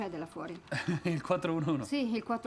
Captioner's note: laughs